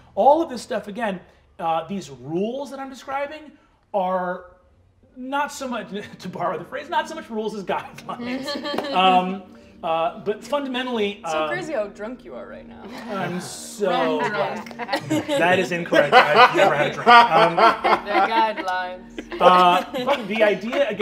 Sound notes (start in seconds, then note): 8.2 laughing; 19.4 laughing